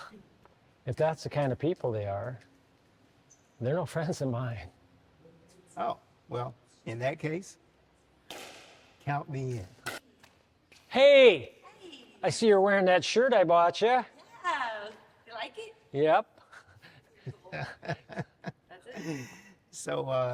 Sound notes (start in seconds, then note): 16.5 laughs